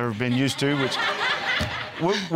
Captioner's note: all laughing